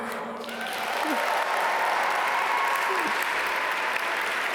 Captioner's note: audience applaud